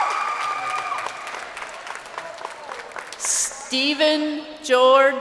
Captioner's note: crowd cheering